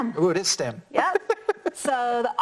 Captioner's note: laughs